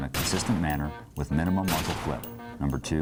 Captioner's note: gun shoots